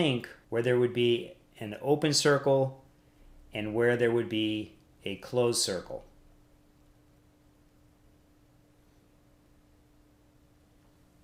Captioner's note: silence